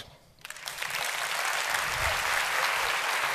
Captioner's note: applause